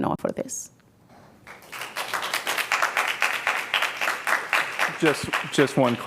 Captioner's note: applause